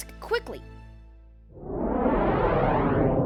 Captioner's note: whoosh